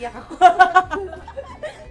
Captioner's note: laughs